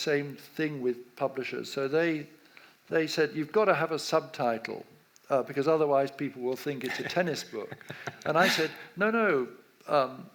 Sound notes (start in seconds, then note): 6.8 laughs